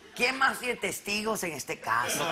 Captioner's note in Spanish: con acento mexicano